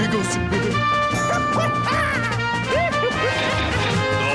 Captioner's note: laughing